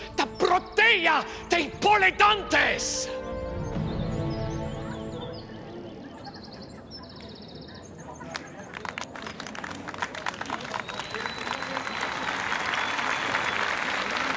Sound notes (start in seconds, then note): 5.5 birds chirping; 8.3 applause building